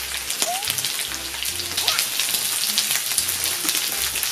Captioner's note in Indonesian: nyam nyam nyam